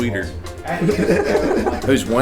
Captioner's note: laughs